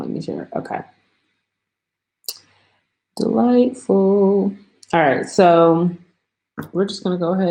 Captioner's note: singsongy